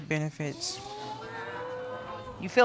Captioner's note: audience exclaims